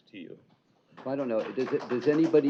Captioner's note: applause